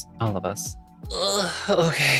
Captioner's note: groans